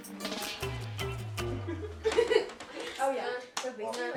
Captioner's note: upbeat music; friend laughs